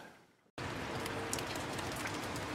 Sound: raining

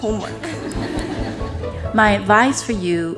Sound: audience laughs

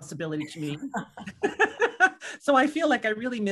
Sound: laughing

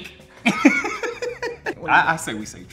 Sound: both laugh

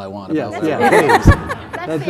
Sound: laughter

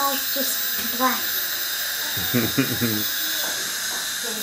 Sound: laughing

